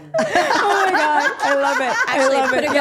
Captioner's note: group laughing